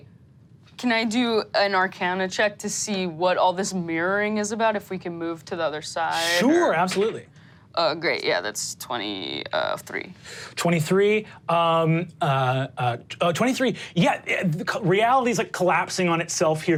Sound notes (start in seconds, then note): none